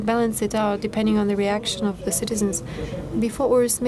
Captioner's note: speaking foreign language